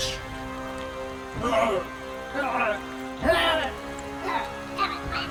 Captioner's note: leprechaun groaning